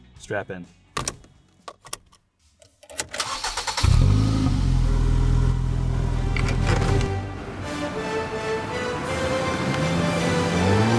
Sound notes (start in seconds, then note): 3.7 car engine revving; 6.3 upbeat music